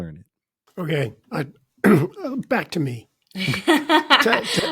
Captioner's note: clearing throat; chuckling; laughing